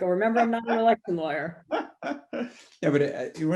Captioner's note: laughs